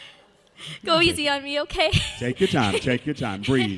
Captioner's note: laughs